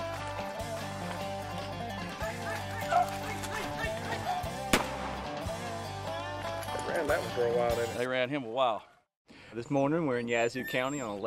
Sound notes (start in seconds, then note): 4.6 gun fires